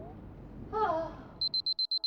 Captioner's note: muffled moan